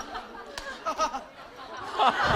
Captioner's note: haha